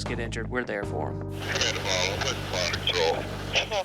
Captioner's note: man, over radio; woman, over radio